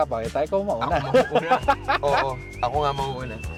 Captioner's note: laughs